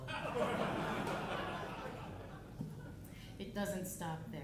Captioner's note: audience laughing